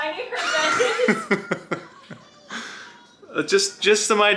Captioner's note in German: lacht